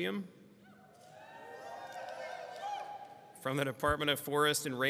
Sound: people screaming

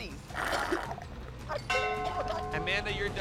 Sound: coughing

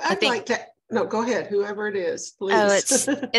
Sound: laughs

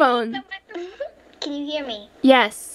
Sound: giggle

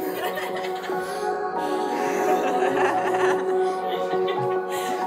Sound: family laughing

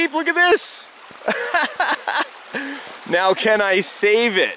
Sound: laughing

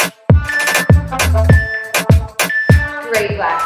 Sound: timer beeping

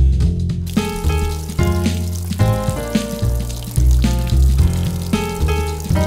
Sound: water running

